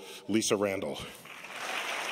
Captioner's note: applause